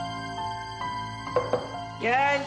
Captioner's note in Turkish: Kapı tıklaması